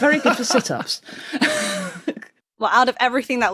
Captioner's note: laughs breathily; wheezes